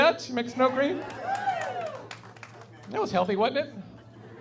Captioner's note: audience claps and cheers; laughing